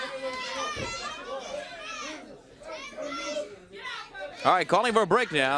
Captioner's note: crowd chattering